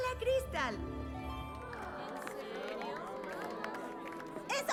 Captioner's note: light applause and murmurs